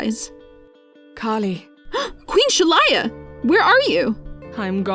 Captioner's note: gasps